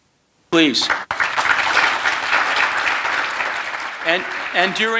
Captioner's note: audience clapping